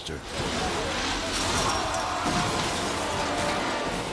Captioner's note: metal clanging